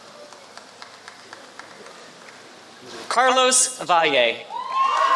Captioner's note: applause